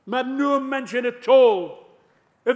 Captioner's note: none